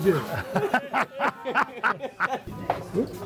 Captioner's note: laughing